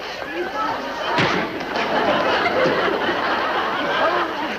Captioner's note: punching face